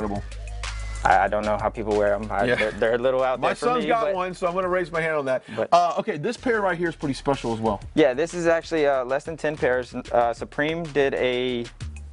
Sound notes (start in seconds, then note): 2.4 laughs